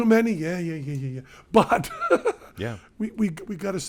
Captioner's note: chuckles